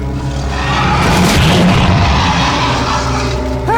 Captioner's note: booming roar